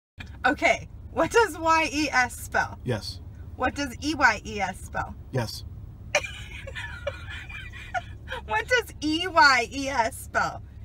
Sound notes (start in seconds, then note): 6.2 muffled laughter